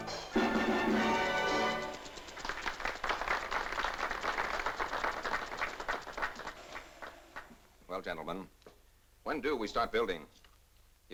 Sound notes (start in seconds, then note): 0.0 upbeat music; 1.6 applause